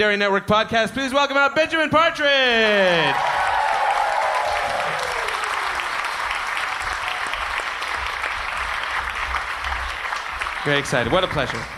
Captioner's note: applause